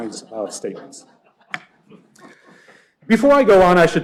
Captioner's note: laughter